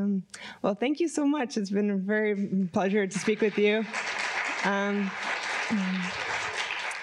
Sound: applause

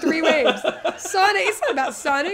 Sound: laughing

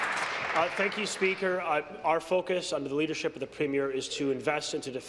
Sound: applause

